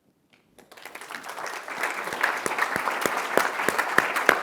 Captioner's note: applause